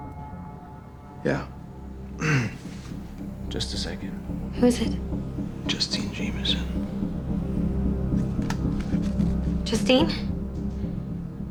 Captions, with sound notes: Yeah. (CLEARS THROAT) Just a second. Who is it? Justine Jamisen. Justine?